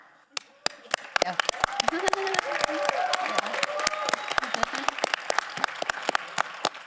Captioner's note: all applauding; audience cheering